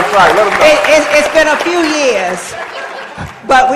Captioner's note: applause; laughter